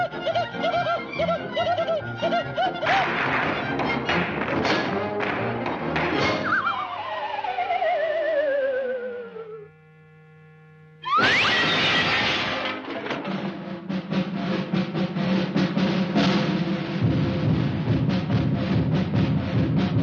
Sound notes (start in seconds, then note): 0.9 bright music; 2.8 items clattering; 6.2 elevator whirring; 11.4 light shatters; 13.1 rhythmic drumming music